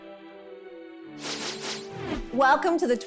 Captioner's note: transition sound